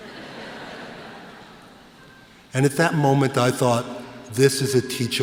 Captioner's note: laughter